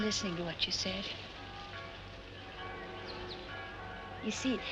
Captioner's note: church Bells